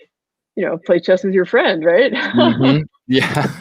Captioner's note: laughs